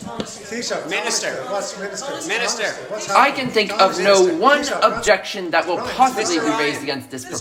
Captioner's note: crowd talking